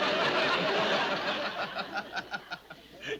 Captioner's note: Donald laughs